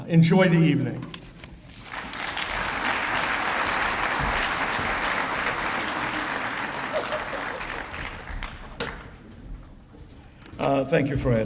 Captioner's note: applause